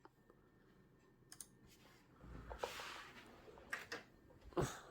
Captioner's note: mouse clicking